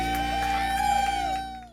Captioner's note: audience cheers